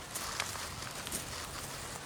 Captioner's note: munching loudly